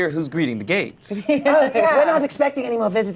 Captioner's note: laughs